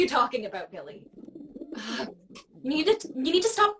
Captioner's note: pigeon sounds